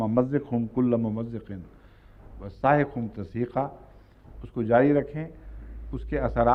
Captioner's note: Arabic